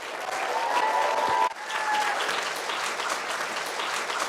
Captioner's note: applause